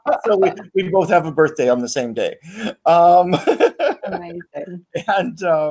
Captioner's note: laughing; laughs